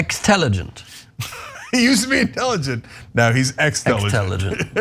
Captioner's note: laugh